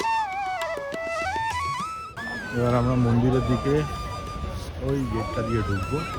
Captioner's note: applause